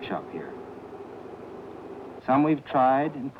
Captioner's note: machine drilling